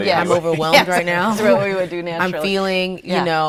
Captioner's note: laughing